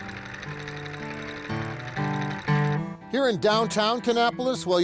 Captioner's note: machine sewing